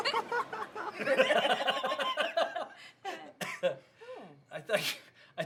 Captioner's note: dad and grandmother laughing